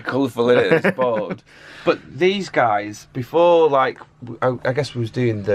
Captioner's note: laughs